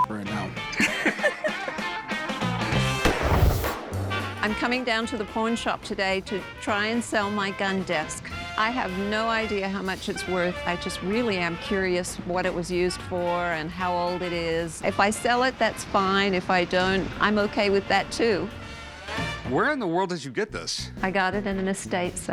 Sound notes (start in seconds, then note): 0.7 laughter; 2.8 gunshot